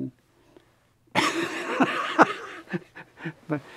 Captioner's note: laughs